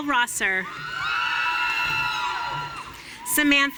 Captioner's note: audience cheering